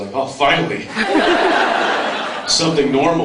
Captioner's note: laughs